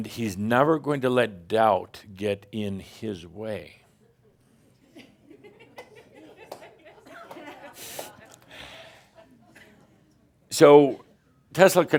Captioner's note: more stink eye and some giggles